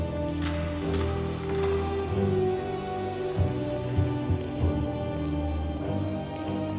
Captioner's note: keys rattling; lock clicking